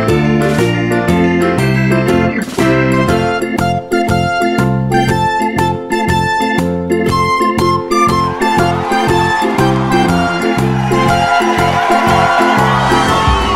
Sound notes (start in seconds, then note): 7.6 audience cheering